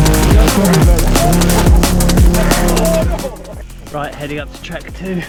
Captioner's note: upbeat music continues; people chattering